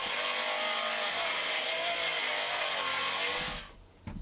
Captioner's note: saw grinding